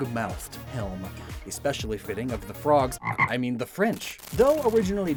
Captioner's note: ribbit SFX